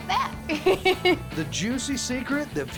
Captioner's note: giggling